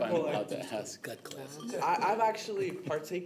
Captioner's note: laughter